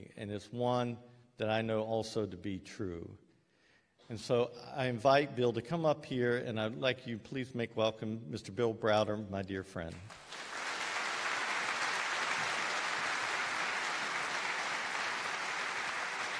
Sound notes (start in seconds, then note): 10.0 applause